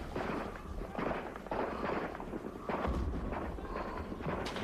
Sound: artillery booming

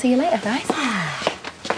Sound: sighs

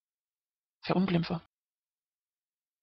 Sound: fast Pronunciation

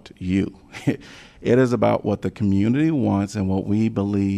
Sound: laughter

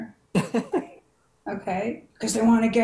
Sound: chuckling

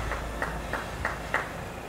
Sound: clapping

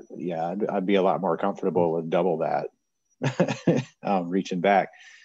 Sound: laughs

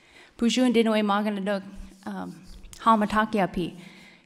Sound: speaking Ojibwe

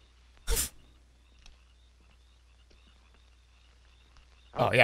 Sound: laughs

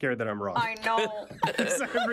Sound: laughing loudly

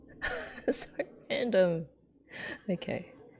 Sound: laughs

